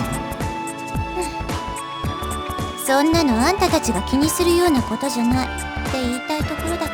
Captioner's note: sigh